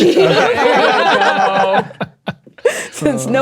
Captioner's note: players laughing